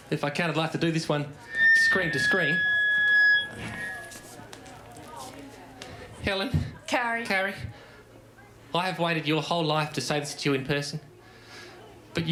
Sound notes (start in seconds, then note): 3.1 microphone feedback